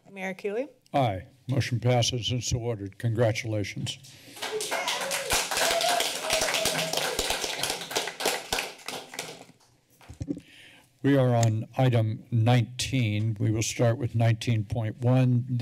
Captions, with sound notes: - Mayor Keeley? - Aye. Motion passes and so awarded. Congratulations. - [cheering and applause] We are on item 19. We will start with 19.1.